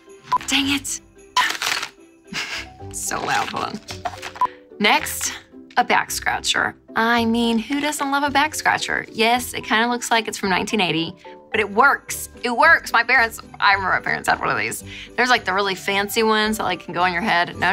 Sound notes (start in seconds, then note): 0.3 beep; 4.5 beep